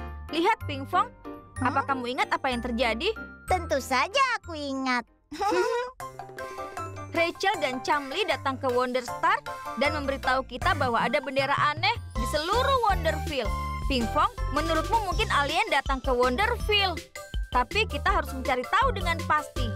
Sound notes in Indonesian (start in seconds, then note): 5.3 tertawa kecil